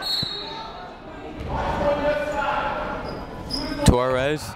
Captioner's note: whistle tweeting; people shouting in the crowd